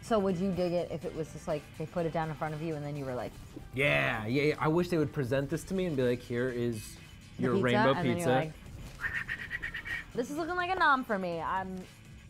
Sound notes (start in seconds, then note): 9.0 whistling